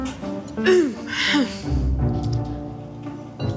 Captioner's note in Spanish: Carraspea